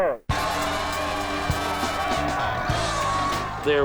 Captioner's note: cheers